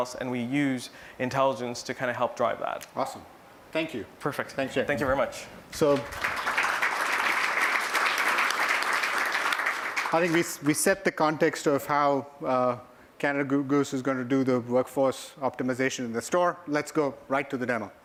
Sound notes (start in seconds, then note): 5.8 applause